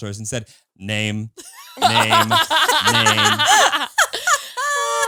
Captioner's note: all laughing